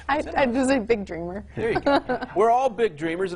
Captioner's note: laughing